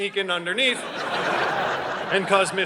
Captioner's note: audience laughing